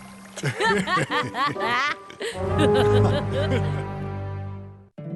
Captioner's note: laughter